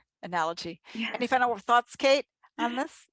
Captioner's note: laughs